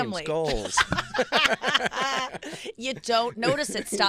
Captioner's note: laughing